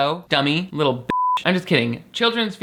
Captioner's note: beep